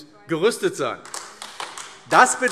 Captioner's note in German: Beifall AfD